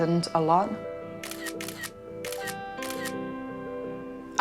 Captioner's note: camera shutter clicks